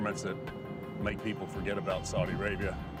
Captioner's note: none